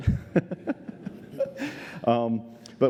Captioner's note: laughter